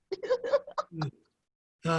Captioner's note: laughing